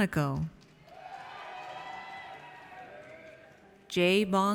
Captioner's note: audience cheers